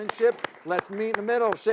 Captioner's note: all applauding